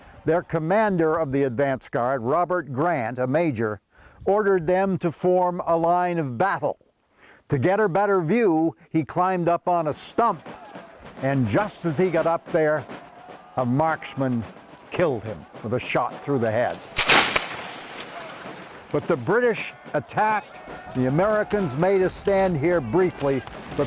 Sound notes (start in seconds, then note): 16.5 gun shots